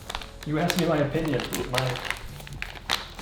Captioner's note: opening package